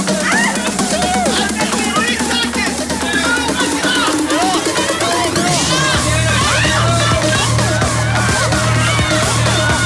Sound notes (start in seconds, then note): 2.9 contestants yelling